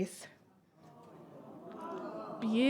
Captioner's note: audience exclaims